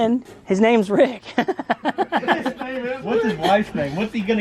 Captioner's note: men laughing